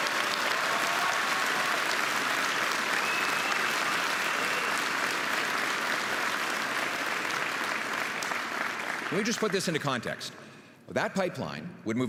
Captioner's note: applause and cheering